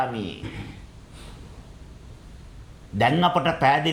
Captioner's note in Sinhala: උගුර කෑරීම